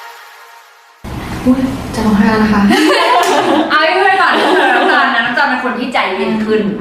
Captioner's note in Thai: เสียงหัวเราะ